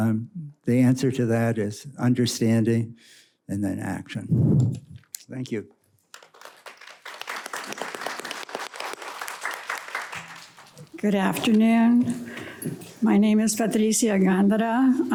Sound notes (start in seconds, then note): 6.0 audience clapping